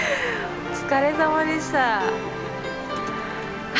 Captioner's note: speaks in Japanese